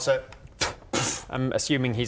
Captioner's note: poof!